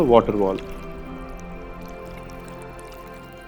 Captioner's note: water pouring